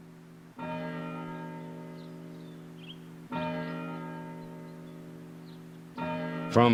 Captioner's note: bells ringing